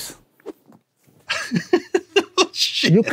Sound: laughs

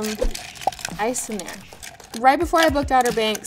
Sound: ice clinking

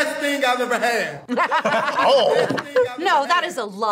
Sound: laughs

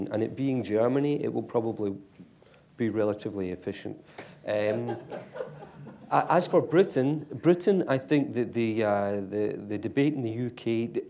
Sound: laughter

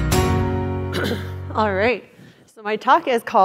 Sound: cough

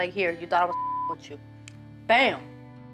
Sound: beep

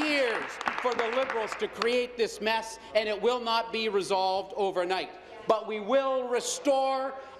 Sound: applause

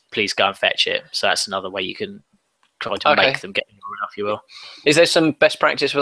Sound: audio skips

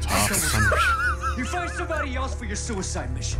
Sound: getting a chucklewheez

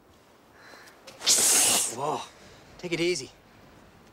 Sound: hissing

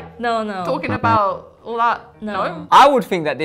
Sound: buzzer buzzes

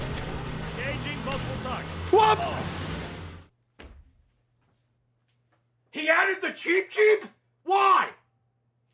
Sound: screams

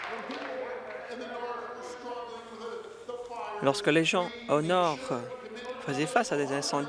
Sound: applause

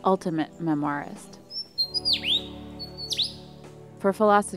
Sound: lyre bird singing

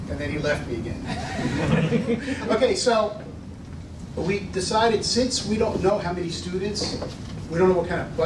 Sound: laughter

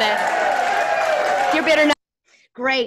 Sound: audience applauding

